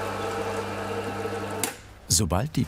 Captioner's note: whirring stops